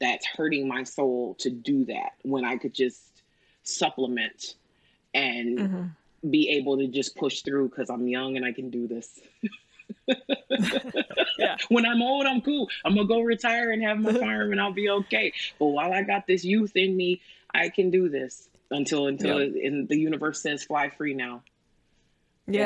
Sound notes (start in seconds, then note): 9.8 laughs